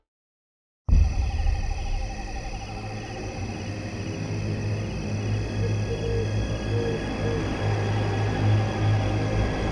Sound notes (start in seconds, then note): 0.8 ominous music; 5.4 owl hoots